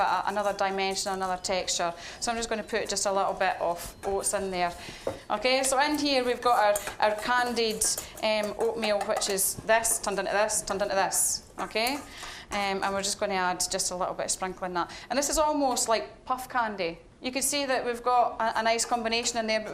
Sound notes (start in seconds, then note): none